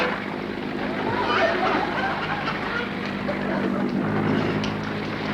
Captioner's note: audience laughter